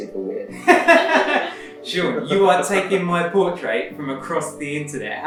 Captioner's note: laughs